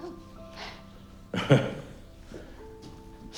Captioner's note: chuckles